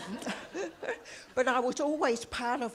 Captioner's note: audience laughs